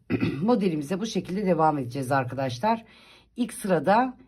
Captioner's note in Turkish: boğazını temizler